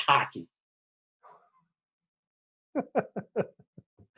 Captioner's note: laughing